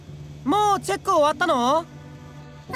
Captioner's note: shout